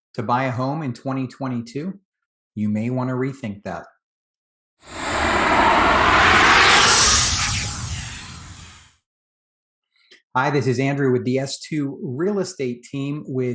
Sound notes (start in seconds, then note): 4.9 logo whooshes